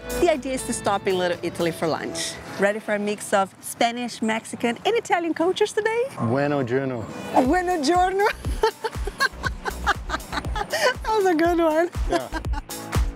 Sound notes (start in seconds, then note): 8.2 in Spanish and Italian; 9.8 laughs